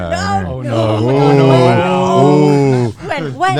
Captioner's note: guys groaning